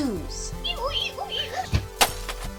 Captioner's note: squeaking noise; glass breaks